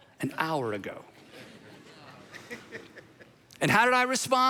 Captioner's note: audience laughing